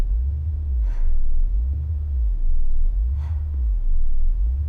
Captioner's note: breathing heavily